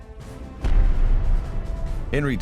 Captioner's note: bomb explosion